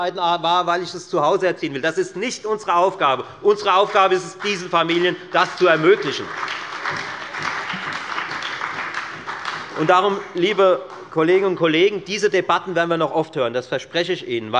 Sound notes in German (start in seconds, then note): 6.2 Beifall bei der FDP und der SPD